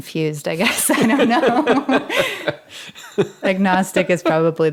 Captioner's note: all laughing